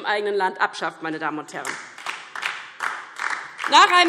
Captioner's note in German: Beifall DIE LINKE